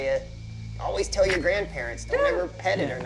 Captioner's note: yelps